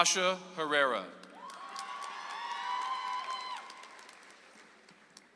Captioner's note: audience applauds